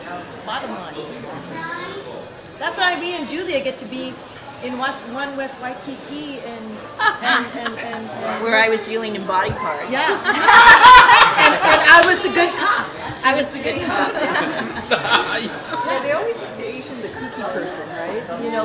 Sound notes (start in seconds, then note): 10.0 all laughing